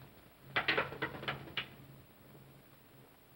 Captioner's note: cane clatters